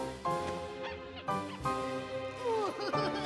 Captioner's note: squeak! squeak! squeak!; laughs maniacally